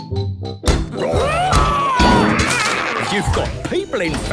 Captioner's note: all roaring